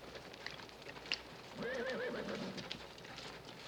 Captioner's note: horses neighing